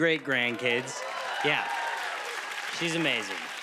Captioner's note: cheers and applause